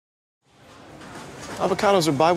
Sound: people milling

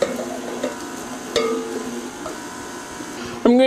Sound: mixer noise

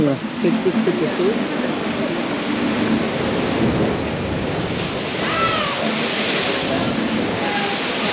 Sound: water spraying

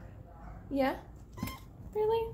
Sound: mew

